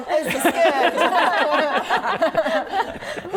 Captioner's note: laughing